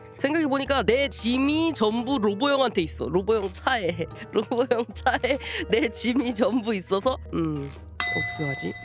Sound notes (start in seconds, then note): 4.4 laughter